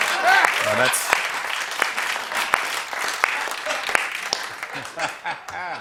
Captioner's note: applause; laughter